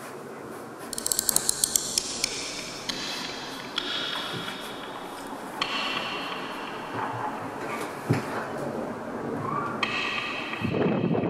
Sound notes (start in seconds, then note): 0.9 scary tick tock chitter chatter; 10.6 sound of windstream as door is opened and Constant popping of mic